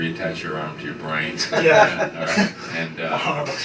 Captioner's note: laughter